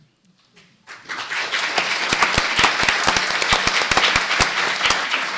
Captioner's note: applause